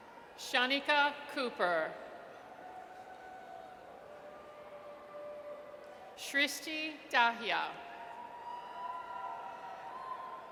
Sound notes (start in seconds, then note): 8.1 audience cheers